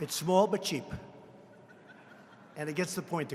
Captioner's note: laughter